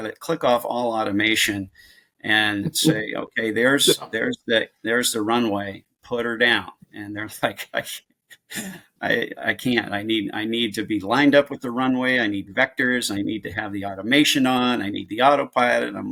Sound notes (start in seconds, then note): 8.4 chuckles